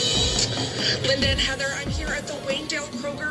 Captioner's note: on TV